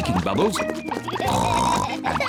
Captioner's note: oinks